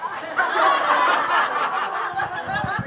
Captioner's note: laughter